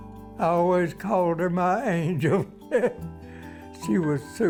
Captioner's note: laughs